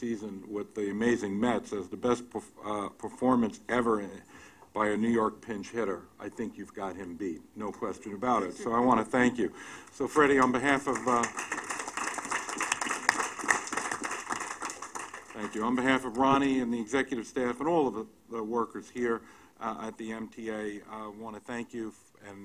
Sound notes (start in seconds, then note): 9.8 applause